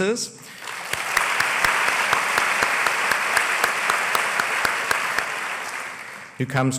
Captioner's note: applause